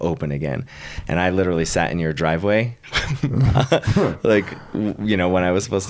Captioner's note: laughing